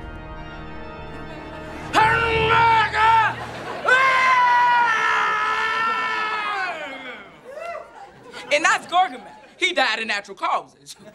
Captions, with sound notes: [screaming] And that's Gorgomel, he died of natural causes.